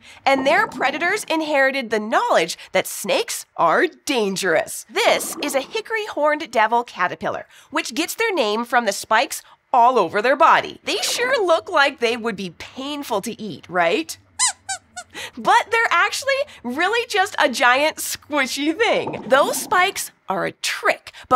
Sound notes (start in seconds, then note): 14.4 squeaks squeaking